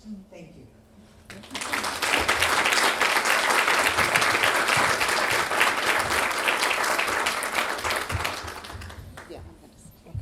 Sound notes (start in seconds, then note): 1.3 applause